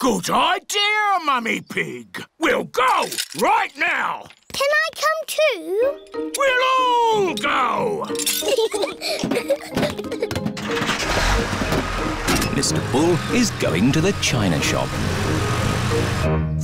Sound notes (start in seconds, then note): 8.1 peppa and george giggle; 10.6 engine turns on